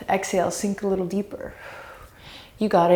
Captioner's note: deep breaths